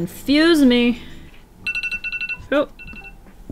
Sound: timer sounds

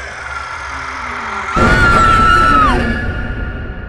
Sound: suspenseful music; scream

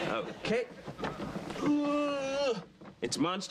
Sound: groans

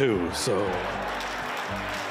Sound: laughter, applause

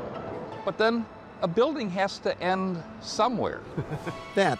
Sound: giggles

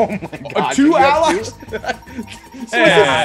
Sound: laugh

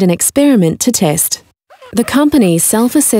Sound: wiping sound

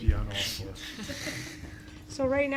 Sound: laughter

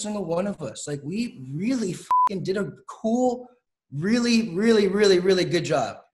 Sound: beep

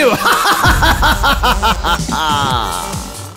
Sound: laughing maniacally

